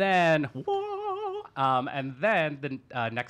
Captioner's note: vocalizes